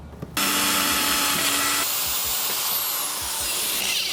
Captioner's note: whirring